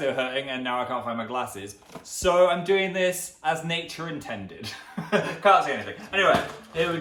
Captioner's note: laughs